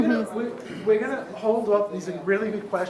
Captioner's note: audience chatters